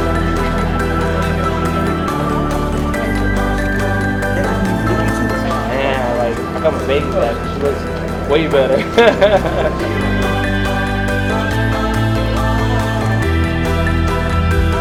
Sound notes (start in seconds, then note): 7.3 music drowns out speaker; 12.1 laughs